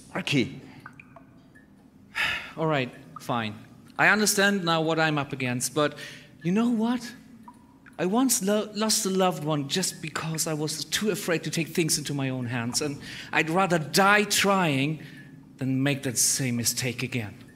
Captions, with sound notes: Sparky! *sigh* Alright. Fine. I understand now what I'm up against. But you know what? I once lost a loved one just because I was too afraid to take things into my own hands, and I'd rather die trying than make that same mistake again.